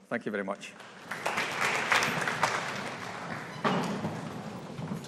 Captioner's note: audience applauding